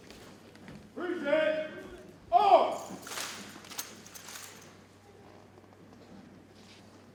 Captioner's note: metal clicks